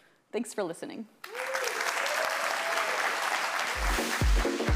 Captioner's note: audience applauds; upbeat music